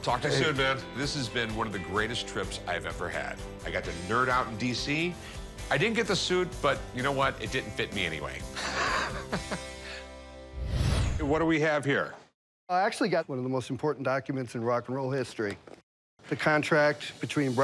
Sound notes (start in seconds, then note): 8.6 laughs